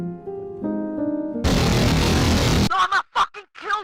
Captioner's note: Hypnotoad sfx